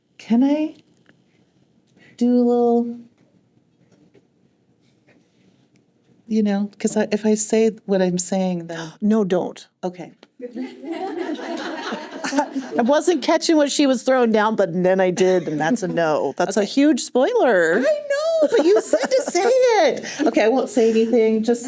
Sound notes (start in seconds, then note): 10.5 laughter